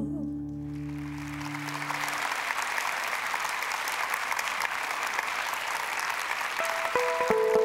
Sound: applause

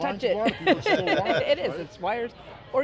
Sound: laughs

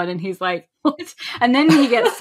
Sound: laughs

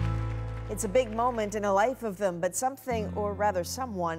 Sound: applause

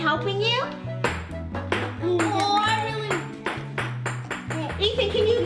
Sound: egg rolling on floor

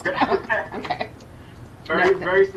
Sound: both laughing

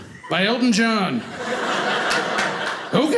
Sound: audience laughing

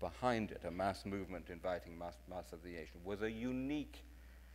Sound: speaking in foreign language

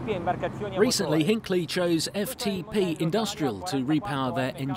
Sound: voiceover

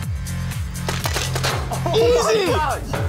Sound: paint ball hits

